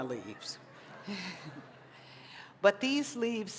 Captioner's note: laughter